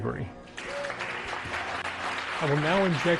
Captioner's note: clapping